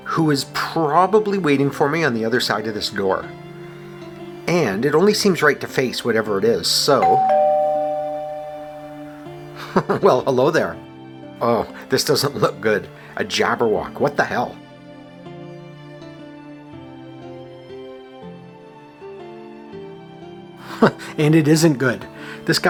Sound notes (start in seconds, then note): 7.0 doorbell; 9.7 chuckles; 20.8 chuckle